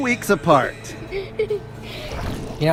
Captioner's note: water splashing